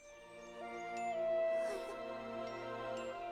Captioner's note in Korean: 한숨